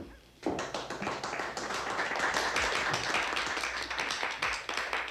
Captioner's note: family applauding